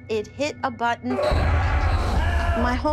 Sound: shouting

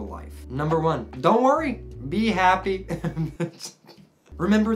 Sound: laughing

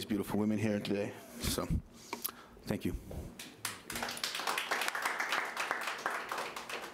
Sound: audience applauding

